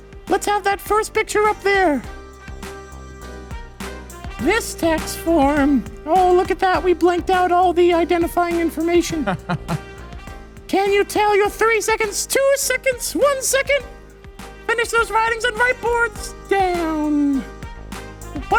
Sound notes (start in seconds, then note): 9.1 laughs